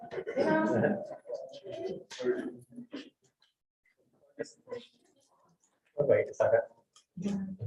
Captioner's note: all chattering